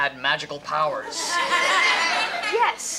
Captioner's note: audience laughter